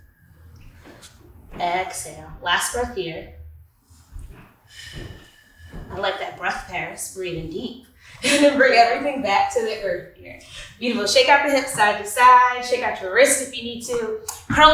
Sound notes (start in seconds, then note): 8.2 laughs